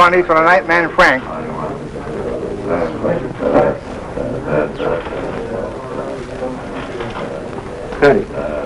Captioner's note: speaking and mumbling